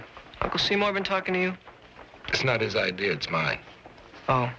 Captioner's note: none